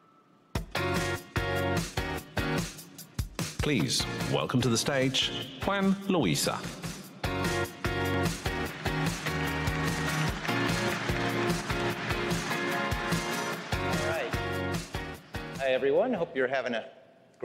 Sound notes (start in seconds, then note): 4.8 applause